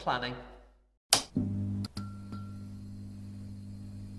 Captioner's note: light switching on